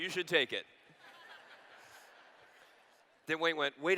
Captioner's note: laughter